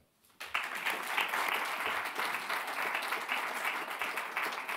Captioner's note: audience clapping